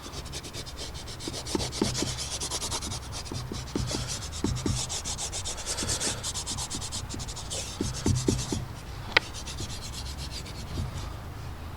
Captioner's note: sketching sounds